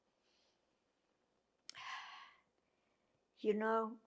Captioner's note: sighing